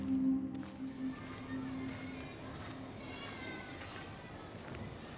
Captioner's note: children chatter, faintly